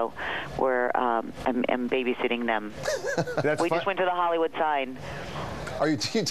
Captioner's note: laughter